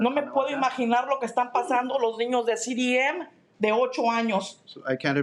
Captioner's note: speaking in Spanish